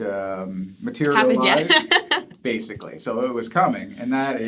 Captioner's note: laughs